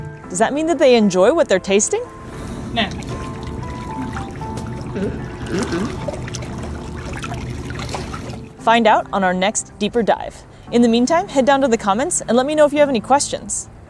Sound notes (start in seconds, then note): 2.1 water splashing noise; 3.4 background music; 3.4 otter makes soft squeaking noises